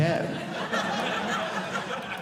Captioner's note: audience laughing